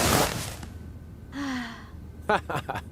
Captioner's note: sigh